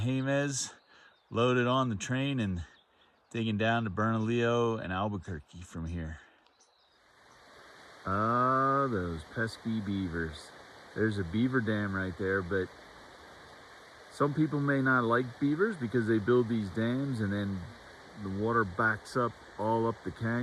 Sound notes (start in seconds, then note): 7.0 water rushing